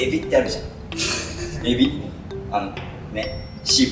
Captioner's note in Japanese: 失笑